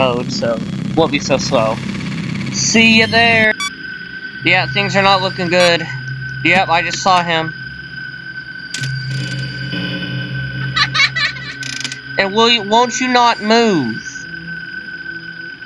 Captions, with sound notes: So it won't be so slow. See ya there! Yep, things are not looking good. Yep, I just saw him. (BB's laugh we all hate) And won't you not move!